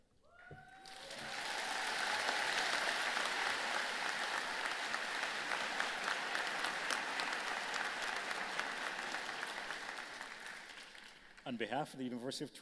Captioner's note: applause